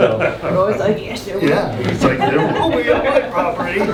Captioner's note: groups laughs